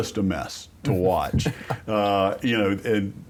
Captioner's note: laughter